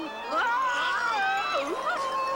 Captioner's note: screeching; shouting